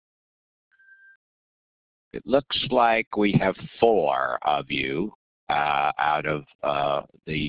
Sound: beeping sounds

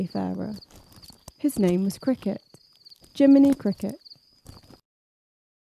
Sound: crickets chirping; silence

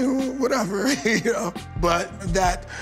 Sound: laughs

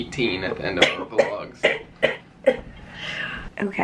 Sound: coughing

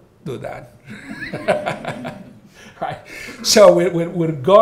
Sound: all laughing

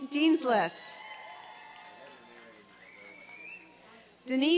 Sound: applause and cheering

